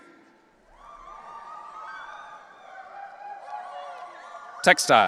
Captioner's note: audience cheering